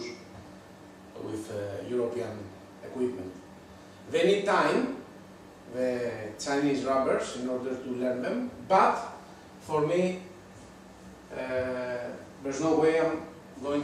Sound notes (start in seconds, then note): none